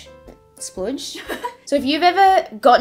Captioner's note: background laughter